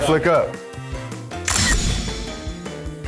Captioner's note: camera clicks; upbeat music continues